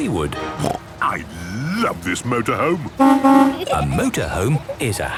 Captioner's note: honking